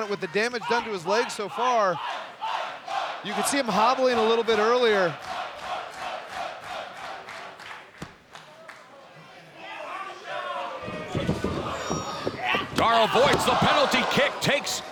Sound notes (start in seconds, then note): 5.1 crowd chanting; 9.4 crowd shouting